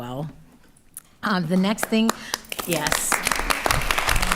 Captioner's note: attendees applauding